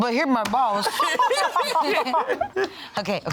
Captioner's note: all laughing